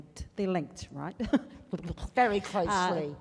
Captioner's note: laughing